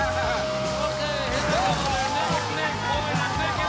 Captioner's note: laughing; cheering